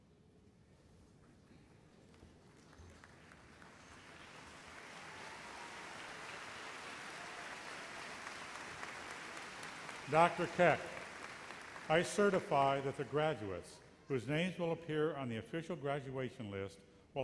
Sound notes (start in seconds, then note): 3.6 applause